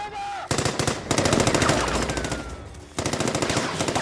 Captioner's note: gunshots blasting